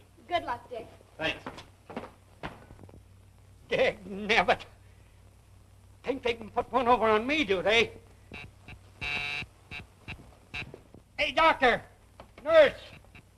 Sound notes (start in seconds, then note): 8.9 intercom buzzing